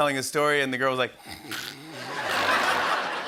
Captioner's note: snoring; laughter